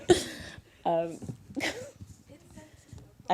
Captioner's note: laughter; chuckle